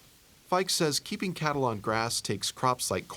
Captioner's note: voiceover